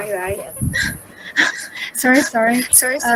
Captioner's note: laugh